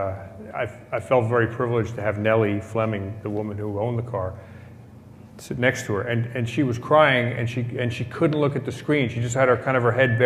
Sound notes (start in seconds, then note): none